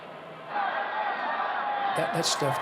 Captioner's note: crowd cheering